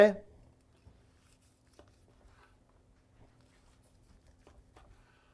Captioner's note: flesh quietly slicing